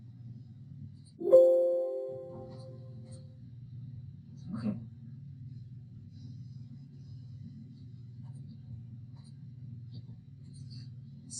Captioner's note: computer chiming